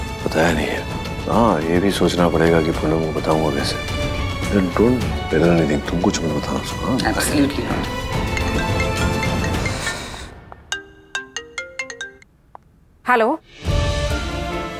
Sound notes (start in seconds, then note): 8.4 cell phone ringing; 9.2 sighs; 10.6 cell phone ringing